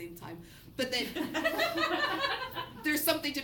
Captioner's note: students laugh